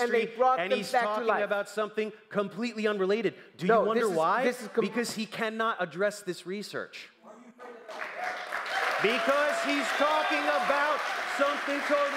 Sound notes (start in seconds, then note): 7.2 crowd commenting; 7.8 applause